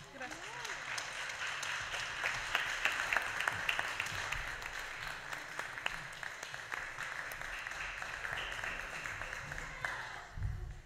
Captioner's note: applause